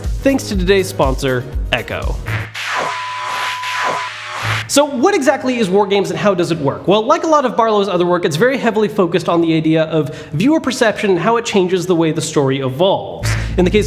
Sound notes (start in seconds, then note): 2.2 buzzing feedback